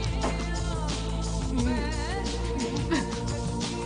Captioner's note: whimpering sobs